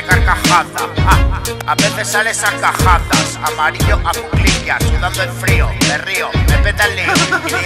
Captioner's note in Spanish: risas